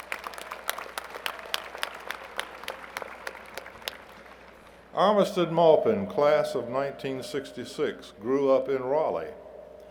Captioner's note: applause